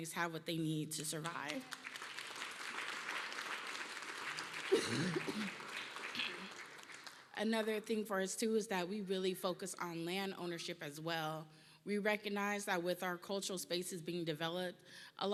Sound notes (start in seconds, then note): 0.9 applause